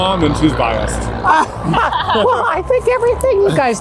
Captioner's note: laughing